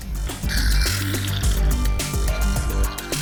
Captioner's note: power steering fluid spurts out